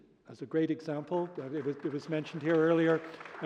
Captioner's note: applause